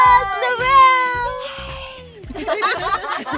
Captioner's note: whispers; girls laughing